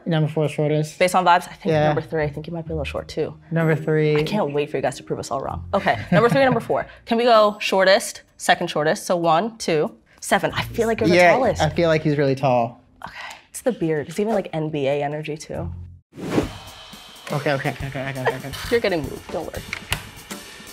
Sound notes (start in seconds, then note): 16.2 air whooshing